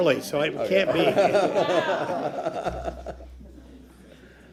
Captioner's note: laughter